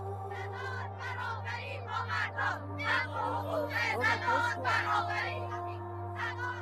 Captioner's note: protestors chanting